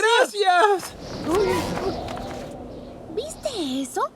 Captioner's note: wind rushes